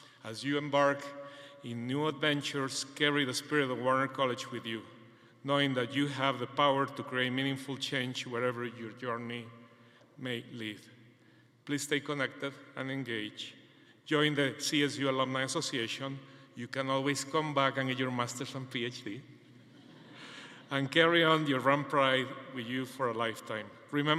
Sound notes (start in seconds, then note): 19.5 attendees laughing